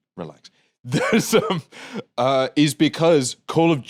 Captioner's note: laughs